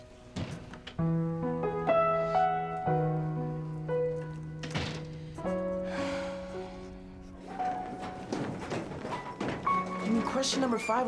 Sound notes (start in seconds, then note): 5.8 sighs